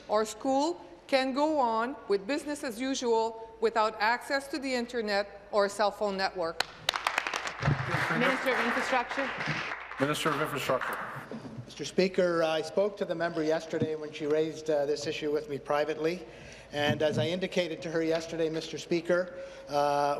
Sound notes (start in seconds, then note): 9.7 applause